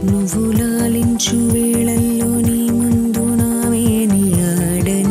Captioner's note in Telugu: none